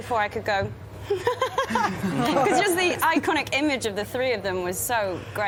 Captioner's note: giggles